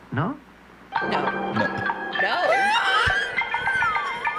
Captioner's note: laughs